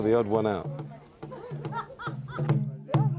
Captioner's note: drum beat; chanting